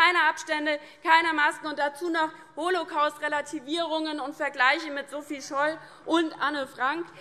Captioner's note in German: none